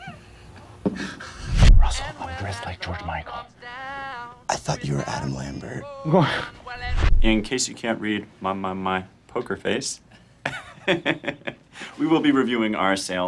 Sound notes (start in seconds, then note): 10.4 chuckles